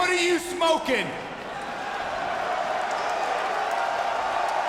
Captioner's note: audience shouting